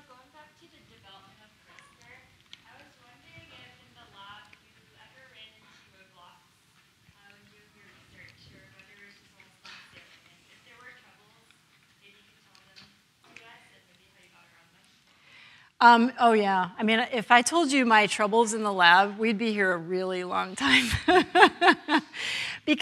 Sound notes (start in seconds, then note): 6.3 speaking faintly; 13.8 speaking faintly; 20.6 laughs